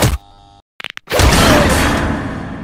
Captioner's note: cracking Knuckles